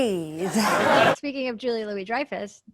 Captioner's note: audience laughs